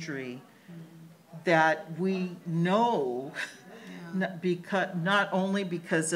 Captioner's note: laughs